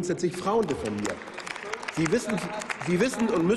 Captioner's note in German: Applaus